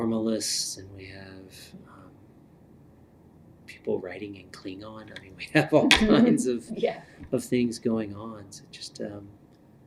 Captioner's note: laughter